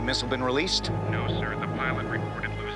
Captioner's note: colonel on phone